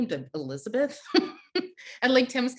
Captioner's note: laughing